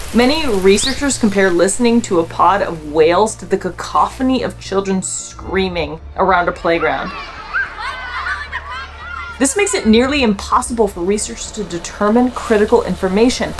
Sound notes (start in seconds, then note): 6.4 playful sound of children talking and screaming